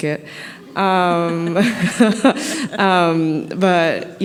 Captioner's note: laughter